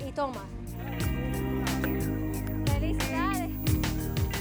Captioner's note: speaking in Spanish